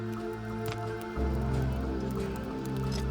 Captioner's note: fire crackling